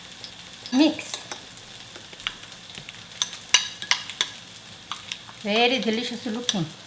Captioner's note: spoon clinking